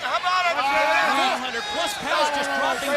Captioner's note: crowd chatter